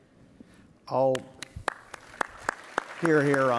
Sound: audience applauding

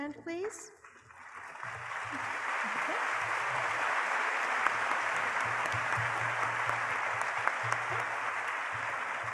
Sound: applause

